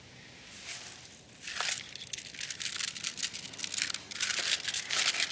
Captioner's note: paper money noises